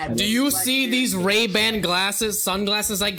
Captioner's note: mocking